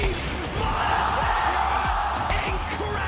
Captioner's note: cheering